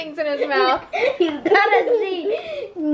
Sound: laughing

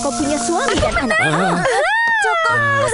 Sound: squeals

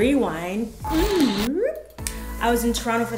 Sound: tape whirling

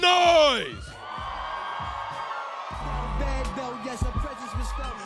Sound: audience applauds

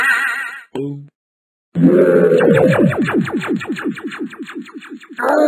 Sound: rOOOoOAR

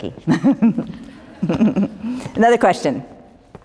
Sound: laughter

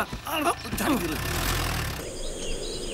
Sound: car Sound

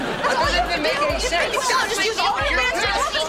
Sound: arguing

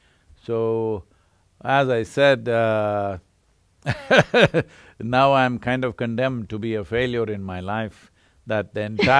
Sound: laughs

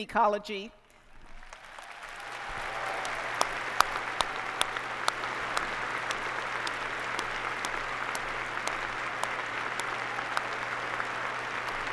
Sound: applause

